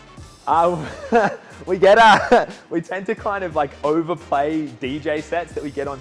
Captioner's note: laugh